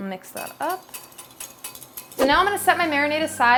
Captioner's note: whisking mixture